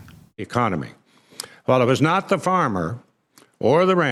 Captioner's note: pat